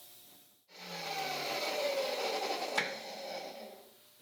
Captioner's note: machine whirs